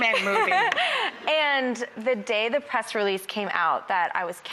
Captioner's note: laughs